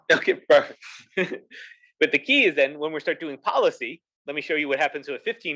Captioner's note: laugh